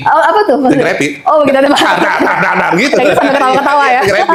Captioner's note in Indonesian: tertawa